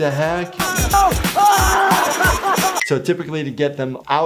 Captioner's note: Steve-O yelling